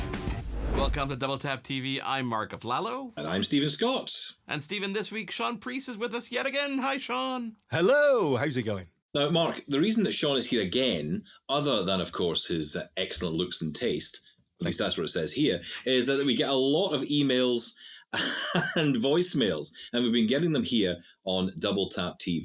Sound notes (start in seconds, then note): 18.1 chuckles; 18.1 laughs